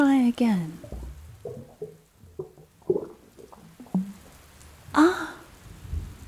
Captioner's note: rain sounds grow softer